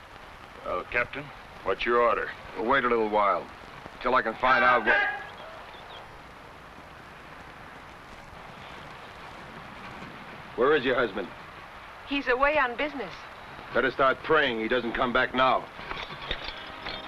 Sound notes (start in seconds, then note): 4.3 man shouts; 16.9 somber music